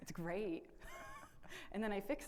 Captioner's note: laugh